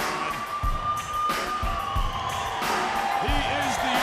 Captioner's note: crowd cheering